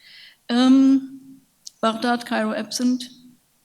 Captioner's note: speaks in a foreign language